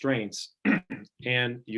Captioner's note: clearing throat